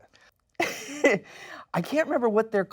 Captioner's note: laughs